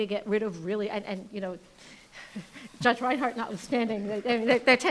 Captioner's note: laughing